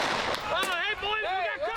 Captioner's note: gun bangs